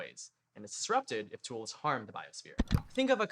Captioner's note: click